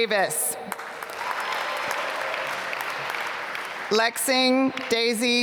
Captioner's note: applause